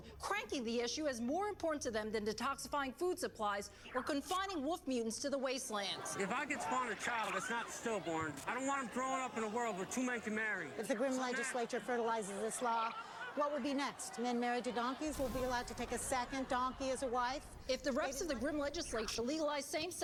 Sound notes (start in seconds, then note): 15.1 explosion